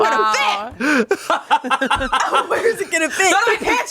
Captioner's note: everyone laughs